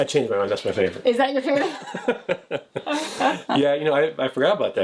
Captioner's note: laughing